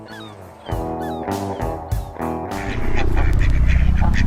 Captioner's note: gulls squawking; geese honking